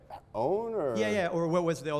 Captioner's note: voiceover